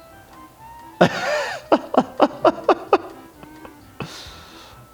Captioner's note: slow upbeat music continues; laughing